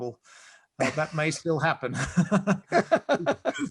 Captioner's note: both laugh; laughs